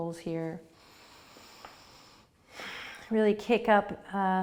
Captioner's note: breathing